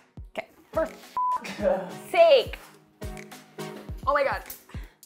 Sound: beep; laughing

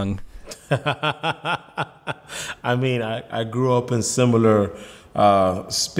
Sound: laughs

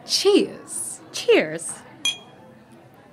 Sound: glasses clink

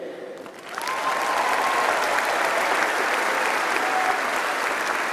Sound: applause and cheering

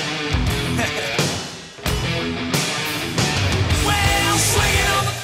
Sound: laughs

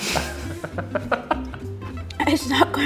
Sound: both laugh

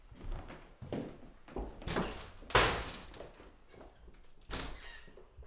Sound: door slams

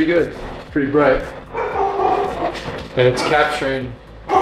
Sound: dogs barking

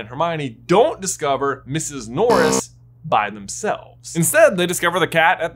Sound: buzzer buzzing

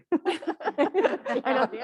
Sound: panelists laughing

